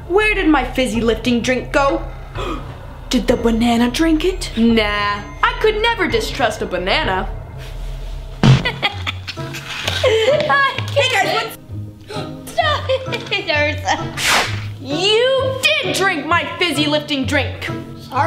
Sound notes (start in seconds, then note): 2.0 gasps; 9.9 laughing; 12.6 gasps